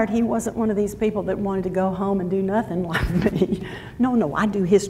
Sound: laughs

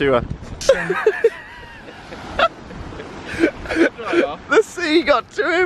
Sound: laughing

